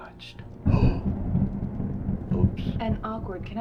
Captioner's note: thunder rumbling